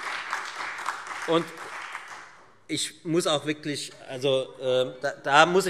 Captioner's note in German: Beifall Freie Demokraten und SPD